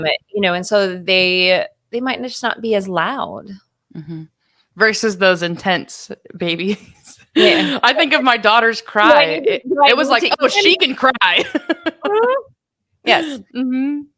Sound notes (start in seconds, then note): 7.3 laughing; 10.2 laughing